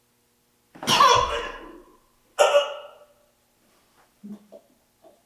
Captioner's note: Jacob coughing